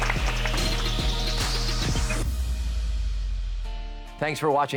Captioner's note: cheers and applause